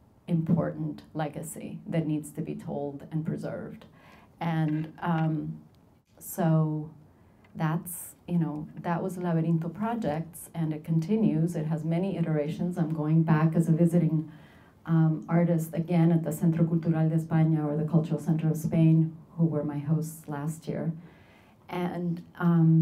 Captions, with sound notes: important legacy that needs to be told and preserved. That was laberinto projects, and it continues, it has many iterations, I'm going back as a visiting artist, again, at the (speaking Spanish) or the Cultural Center of Spain, who were my hosts last year. And...